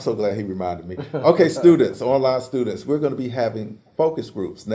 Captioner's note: laugh